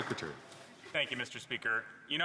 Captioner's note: some Applause